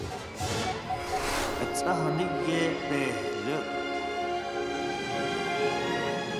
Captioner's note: speaking Navajo